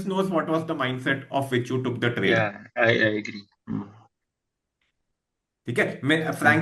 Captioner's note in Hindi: गला साफ़ करने की आवाज़